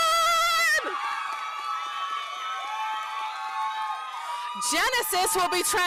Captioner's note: applause